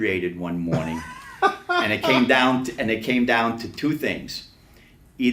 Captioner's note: laughs